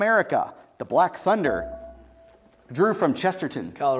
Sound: buzzer beeps

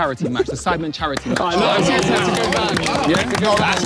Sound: everyone clapping

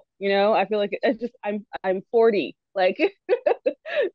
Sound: laughs

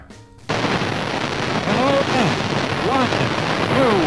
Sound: rumbling sound

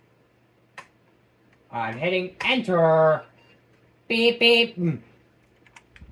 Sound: PC beeps twice

